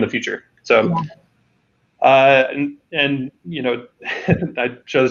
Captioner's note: laughing